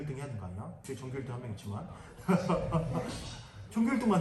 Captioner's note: everyone laughs